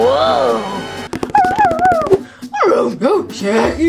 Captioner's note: Scooby whimpers